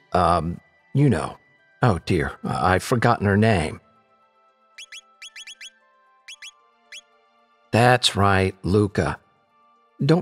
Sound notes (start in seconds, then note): 5.2 electronic beeping